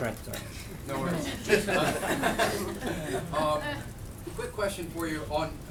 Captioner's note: laughter